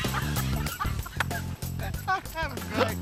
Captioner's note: laughter